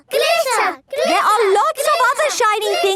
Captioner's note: chanting